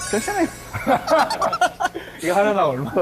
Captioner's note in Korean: ㅎㅎㅎㅎㅎㅎㅎ